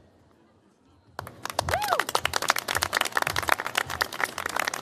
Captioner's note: applause